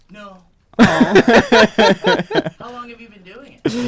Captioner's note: laughing